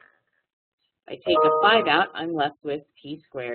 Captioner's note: loud beep